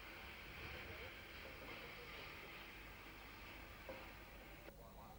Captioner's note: train passing